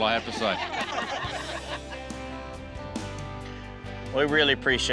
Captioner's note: everyone laughs